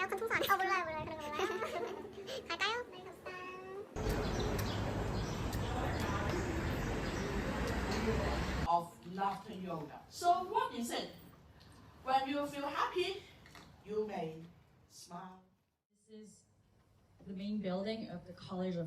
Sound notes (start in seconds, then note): 1.2 laughs